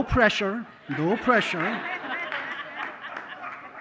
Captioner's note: laughter